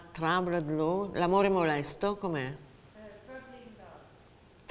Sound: speaking Italian

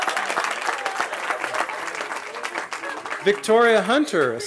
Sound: cheering

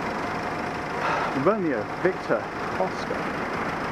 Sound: sighs

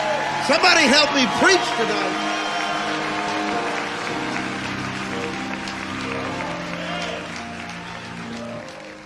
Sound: audience cheering

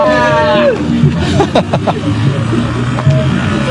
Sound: laugh

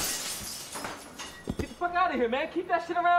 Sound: glass breaking

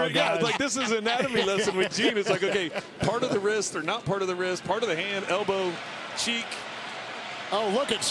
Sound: laughter

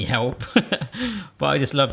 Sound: laughs

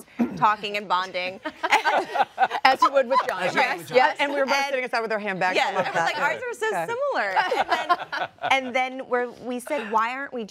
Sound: laughter

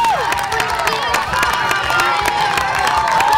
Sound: cheering

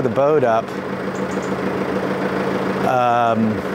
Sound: engine noise

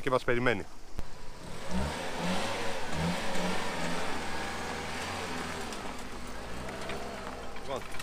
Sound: engine sounds

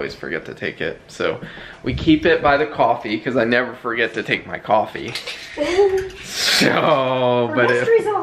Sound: laughs

